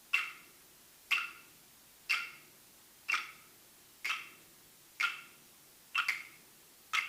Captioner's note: sticks banging rhythmically continues